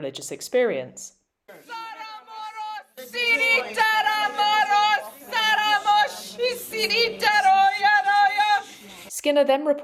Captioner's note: speaking in tongues